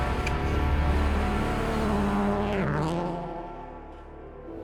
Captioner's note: engines revving